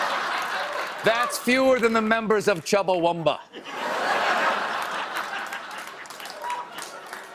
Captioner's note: laughter